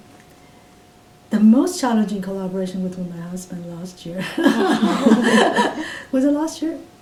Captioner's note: all laugh